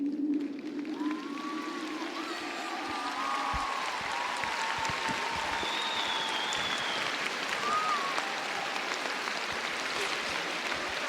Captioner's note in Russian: аплодисменты